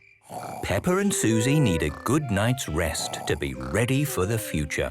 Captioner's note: Peppa and Suzy snoring